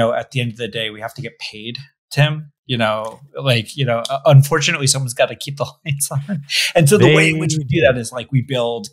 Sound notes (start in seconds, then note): 6.3 laughs